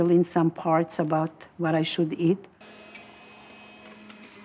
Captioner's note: blender whirring